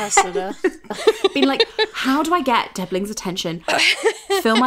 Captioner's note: laughing